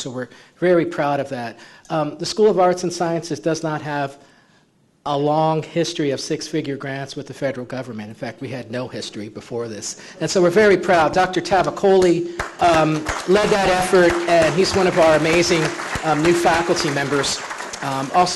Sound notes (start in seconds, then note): 12.3 clapping